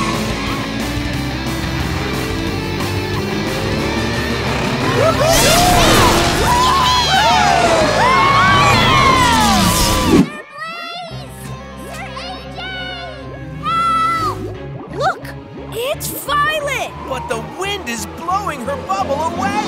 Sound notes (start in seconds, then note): 4.8 cheering